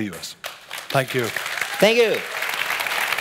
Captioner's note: clapping